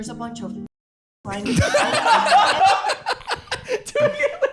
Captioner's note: laughing